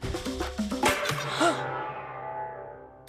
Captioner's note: gasps